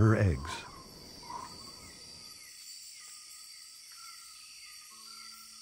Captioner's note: insects chirping